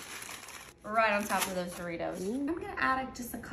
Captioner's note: chips falling